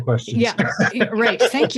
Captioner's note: laughs